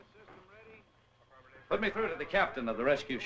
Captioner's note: chattering on radio